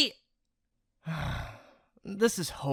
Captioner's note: exasperated sigh